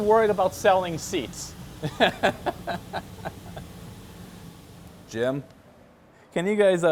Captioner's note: laughter